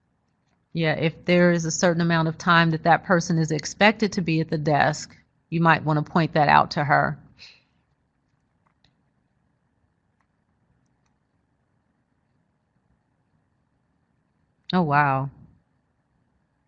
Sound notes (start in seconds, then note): 11.1 reading chat box-silence